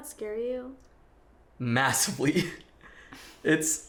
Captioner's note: laughs